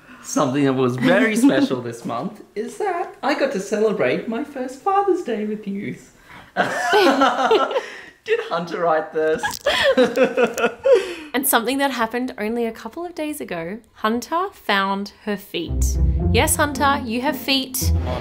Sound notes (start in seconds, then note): 6.6 laughs; 9.4 laughs